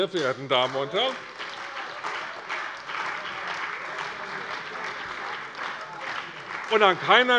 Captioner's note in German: Beifall bei der CDU und dem BÜNDNIS 90/DIE GRÜNEN